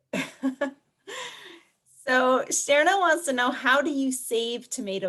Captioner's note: laughs